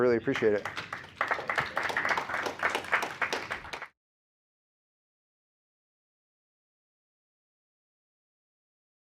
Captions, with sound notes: All right. Well, thank you all so much. I really appreciate it. [APPLAUSE]